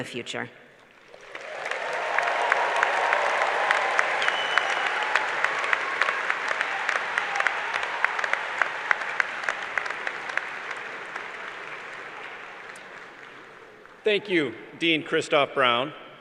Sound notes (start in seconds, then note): 3.0 cheers and applause